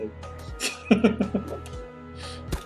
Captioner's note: laughs